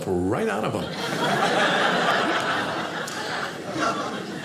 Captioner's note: audience laughing